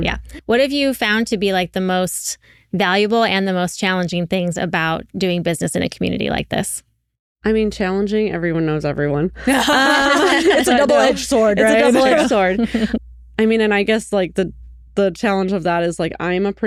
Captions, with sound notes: Yeah, what have you found to be like the most valuable and the most challenging things about doing business in a community like this? I mean, challenging, everyone knows everyone. (Laughing) It's a double-edged sword, right? It's a double-edged sword. I mean, and I guess like the challenge of that is like, I'm a